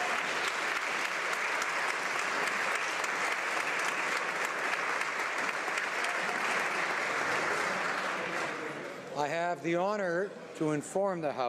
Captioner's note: applause